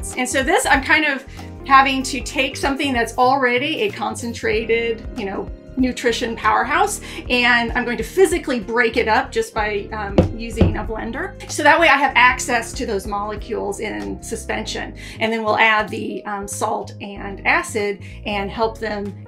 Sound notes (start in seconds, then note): 10.4 container clattering